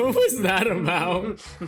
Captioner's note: chuckles; chuckling